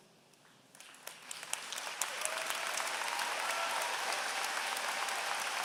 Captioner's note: applause